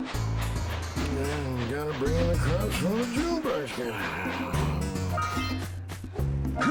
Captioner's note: farmer muttering in his sleep